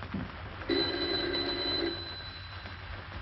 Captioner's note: phone rings